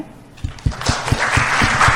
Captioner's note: applause